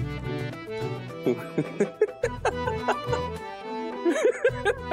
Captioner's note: laughing